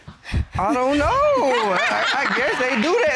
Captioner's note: laughs